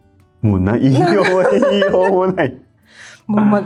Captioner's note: laughs